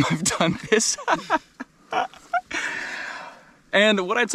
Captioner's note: laughs